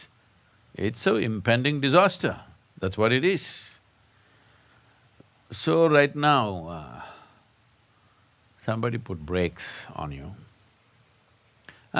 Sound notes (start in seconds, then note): none